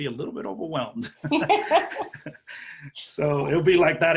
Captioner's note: laughter